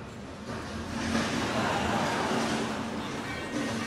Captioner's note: laughter